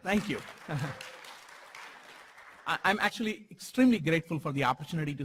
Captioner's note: applause